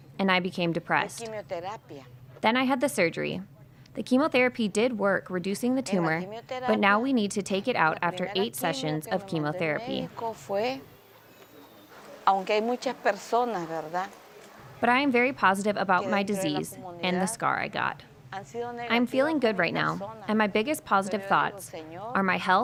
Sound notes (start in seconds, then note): 10.3 speaking spanish